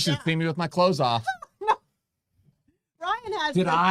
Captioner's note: laughing